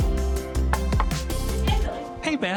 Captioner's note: knocks on door